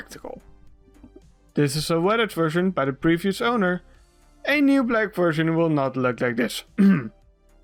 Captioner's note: cough